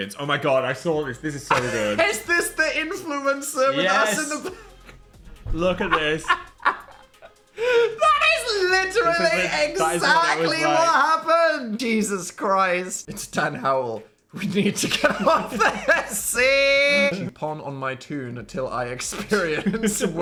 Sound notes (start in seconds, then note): 5.6 Dan laughing; 19.2 laughing